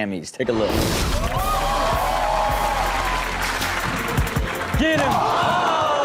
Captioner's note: audience claps and cheers; audience groans